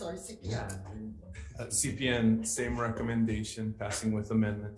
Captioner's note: chuckling